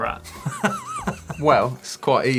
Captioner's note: laughter